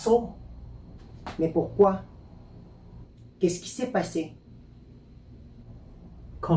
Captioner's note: French